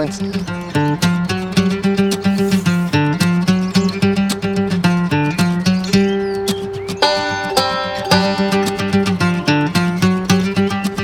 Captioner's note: birds